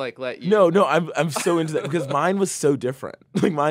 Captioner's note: laughs